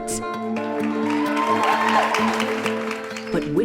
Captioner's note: cheers and applause